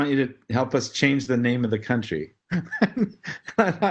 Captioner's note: laugh